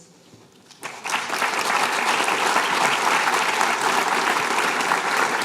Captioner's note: applause